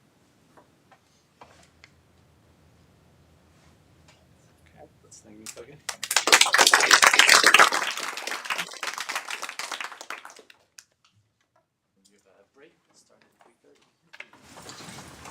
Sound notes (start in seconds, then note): 5.8 applause